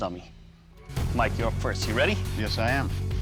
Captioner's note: none